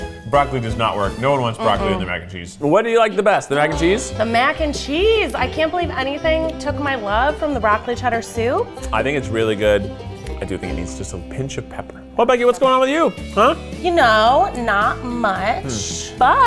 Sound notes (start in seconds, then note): none